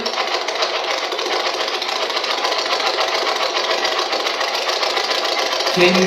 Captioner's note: white Noise